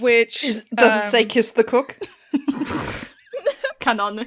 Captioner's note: laughter